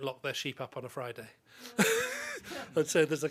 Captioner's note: chuckling